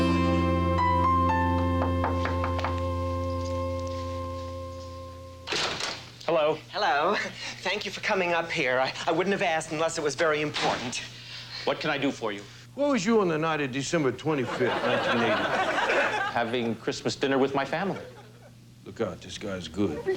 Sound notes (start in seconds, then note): 1.8 knock knock